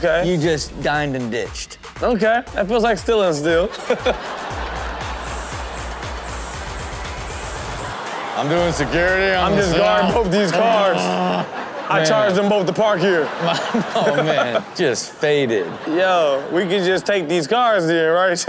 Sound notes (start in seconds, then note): 3.7 laughs; 3.9 audience laughing